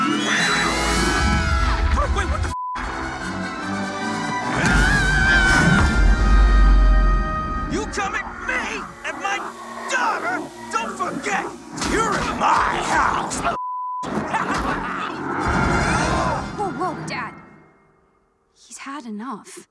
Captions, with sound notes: - Wait, what the (beep)? (dramatic instrumental music) - You come at me and my daughter, don't forget you're in my house, (beep). - Whoa, whoa, Dad. He's had enough.